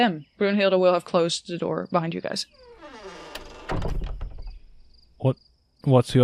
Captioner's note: door creaks as it closes